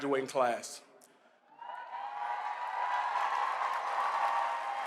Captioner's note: applause, cheers